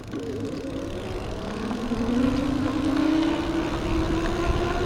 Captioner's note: electric motor whirs